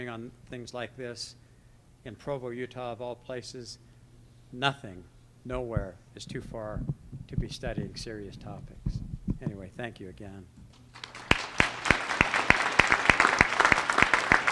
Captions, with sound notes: on things like this in Provo, Utah, of all places. Nothing, nowhere, is too far to be studying serious topics. Anyway, thank you again. (applause)